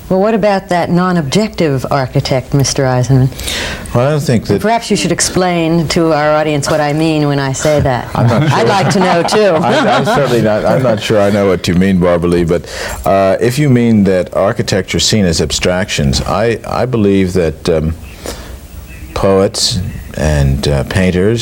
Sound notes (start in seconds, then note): 9.9 laughing